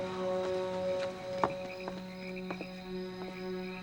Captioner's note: crickets chirping; frogs croaking